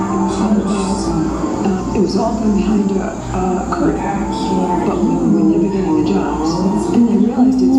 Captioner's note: female voice in English